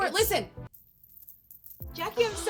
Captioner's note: tassels jingling